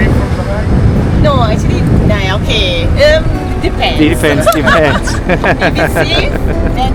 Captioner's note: laugh